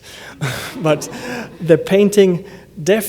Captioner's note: laughter